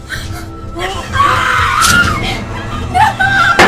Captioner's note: screaming